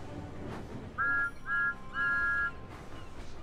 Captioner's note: thomas whistles